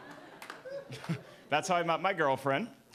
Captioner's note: audience laughing